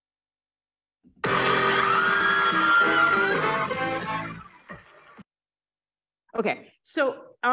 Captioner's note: music blares; crowd screaming